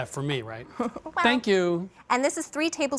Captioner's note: chuckles